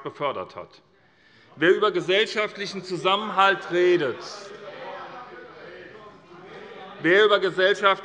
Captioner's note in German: Zurufe von der CDU